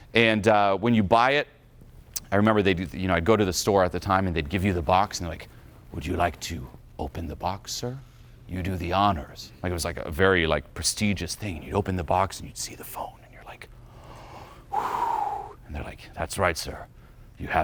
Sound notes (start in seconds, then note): 13.9 exhales; 14.0 gasps